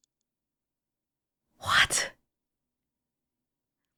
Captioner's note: whispers